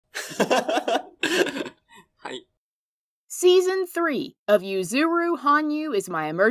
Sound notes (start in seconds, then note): 0.2 Yuzu's Laugh